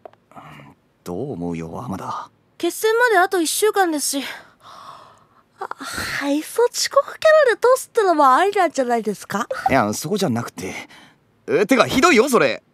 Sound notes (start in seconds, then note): 5.6 yawns